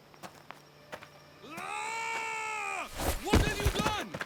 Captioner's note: scream